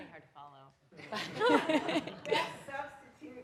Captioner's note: everyone laughing